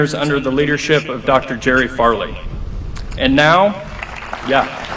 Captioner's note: applause